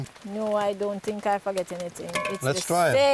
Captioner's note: pot clanks